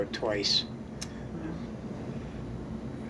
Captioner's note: clicks Tongue